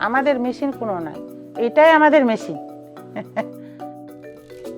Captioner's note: speaking foreign language